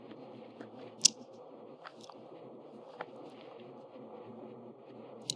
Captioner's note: clicks tongue